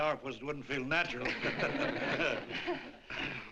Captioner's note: laughter